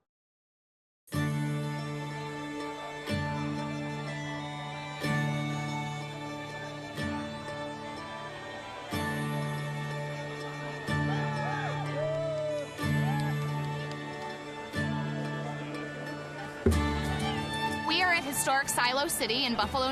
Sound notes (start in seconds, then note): 1.4 soft Irish music; 11.9 cheering